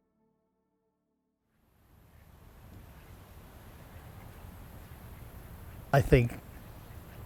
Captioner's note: sound of wind in trees